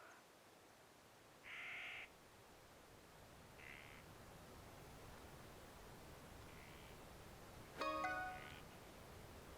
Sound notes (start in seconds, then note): 7.8 phone chimes